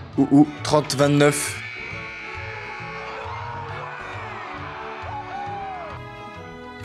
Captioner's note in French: cris de joie